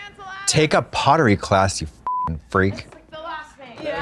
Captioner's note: beep